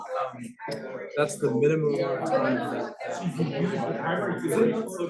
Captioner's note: students chattering